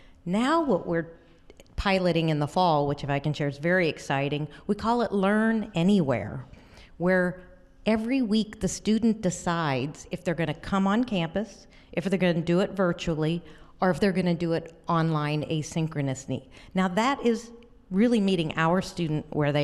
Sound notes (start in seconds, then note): none